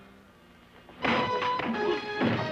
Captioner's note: fist thudding; dramatic music